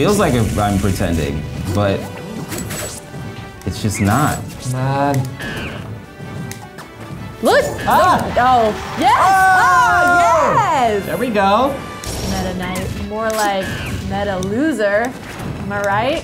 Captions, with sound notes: - It feels like I'm pretending, but it's just not. - Come on! - What? (cheering) - There we go! - Meta Knight? More like Meta Loser! Am I right?